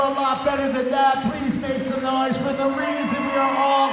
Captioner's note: cheering